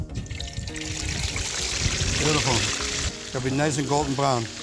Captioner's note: sizzling